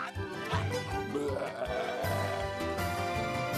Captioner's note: growling